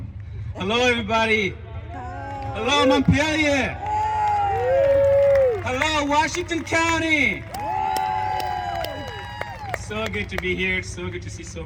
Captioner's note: applause